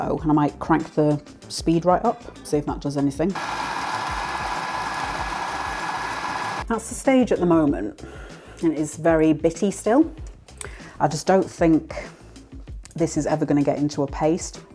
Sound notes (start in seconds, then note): 3.3 food processor whirring, crunchy sound